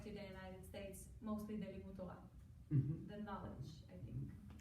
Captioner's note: foreign language